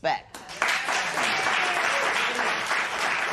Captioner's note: cheers and applause